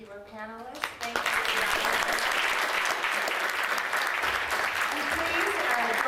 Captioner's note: audience applauding